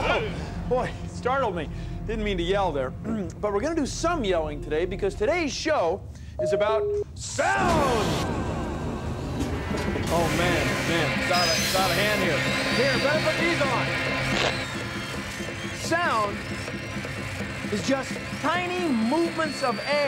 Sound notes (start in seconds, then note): 6.9 echoing; 8.0 pounding, whirring, clanging